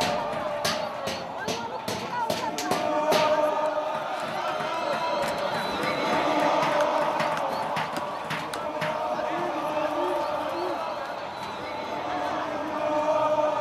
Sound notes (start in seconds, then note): 6.7 hammering noise